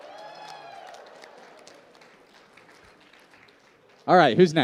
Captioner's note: applause